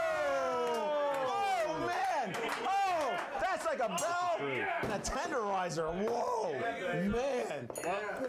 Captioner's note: bell Rings